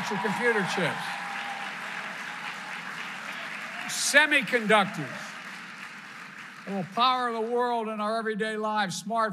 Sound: applause

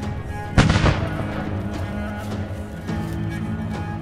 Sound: gun firing; sings in foreign language

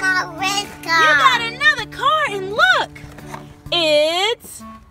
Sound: voiceover

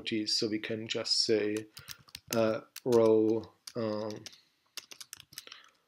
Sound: typing

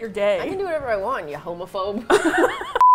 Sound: both laugh

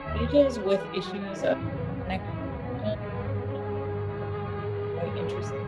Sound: audio distortion; audio distortion

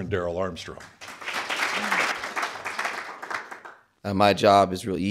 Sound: crowd applauds

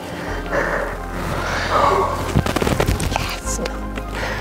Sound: giggling

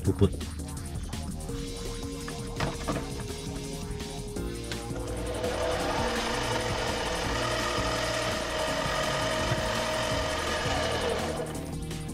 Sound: drilling

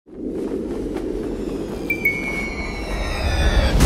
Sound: wind swooshing; suspenseful music

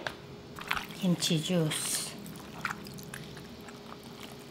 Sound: kimchi juice sloshes

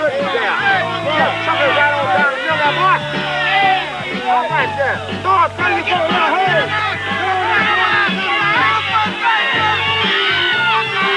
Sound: cheering

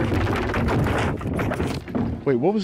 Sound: bin loudly clattering

